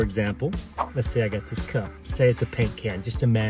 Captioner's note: air whooshes